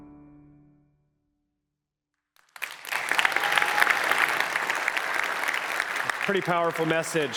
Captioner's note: applause